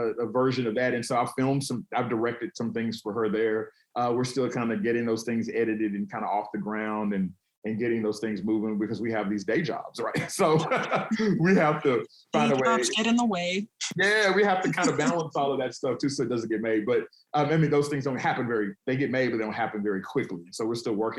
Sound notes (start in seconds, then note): 10.0 laughs